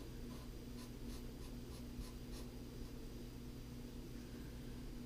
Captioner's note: pen writing on paper